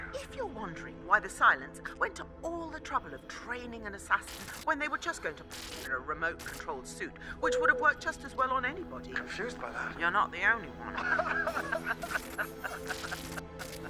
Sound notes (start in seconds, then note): 5.4 static; 10.8 both laughing